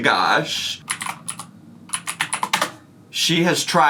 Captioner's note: keyboard clicks